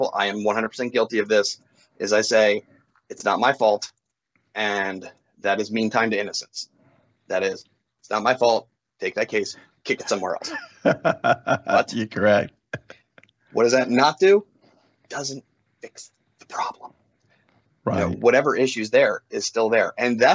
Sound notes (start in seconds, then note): 9.9 laughs